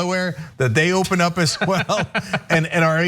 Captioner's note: laugh